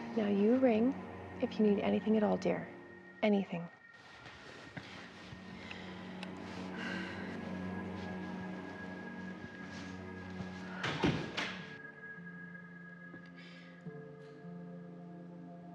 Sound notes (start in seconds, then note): 4.8 dramatic music; 10.5 door closing; 12.7 dramatic music